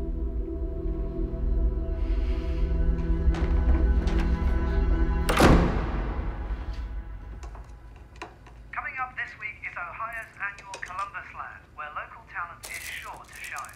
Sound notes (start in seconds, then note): 0.0 dramatic orchestral music rising; 5.2 door closing